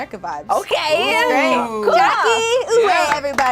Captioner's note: overlapping chattering; group claps